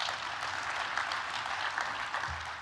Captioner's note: applause